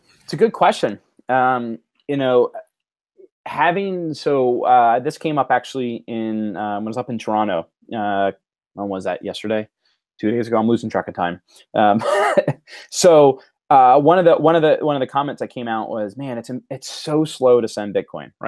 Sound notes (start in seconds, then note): 12.0 laughter